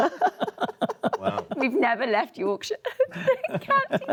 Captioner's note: panelists laugh